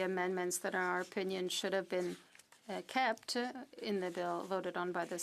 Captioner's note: speaking French